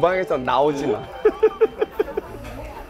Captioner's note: laughing